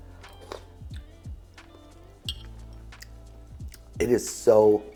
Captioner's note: slurping